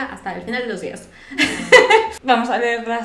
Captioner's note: laughs at her own joke